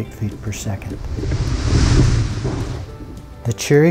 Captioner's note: water sloshing